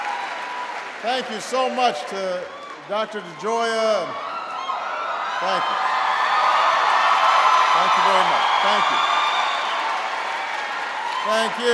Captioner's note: applause